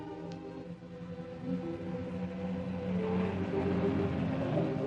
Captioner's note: car engine rumbling